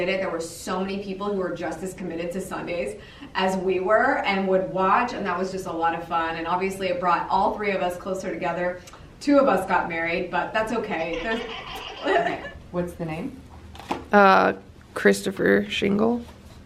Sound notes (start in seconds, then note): 11.0 laughs